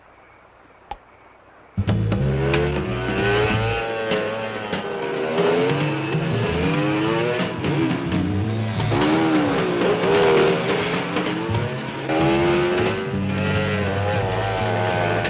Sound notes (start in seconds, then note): 0.8 thud; 2.1 upbeat jazz music; 5.3 motorcycles revving